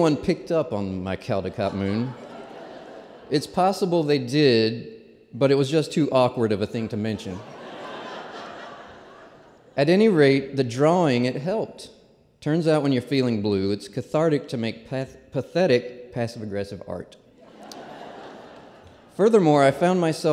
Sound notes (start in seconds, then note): 7.0 laughter; 17.4 laughter